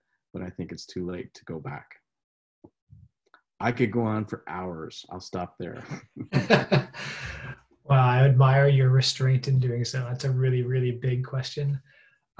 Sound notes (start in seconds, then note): 5.7 laughing